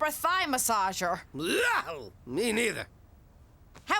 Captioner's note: yells in disgust